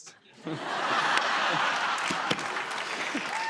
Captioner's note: laughter